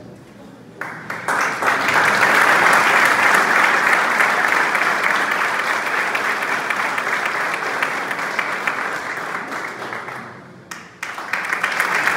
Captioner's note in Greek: χειροκρότημα